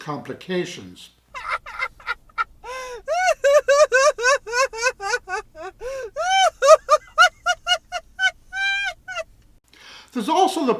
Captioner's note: hysterial laughter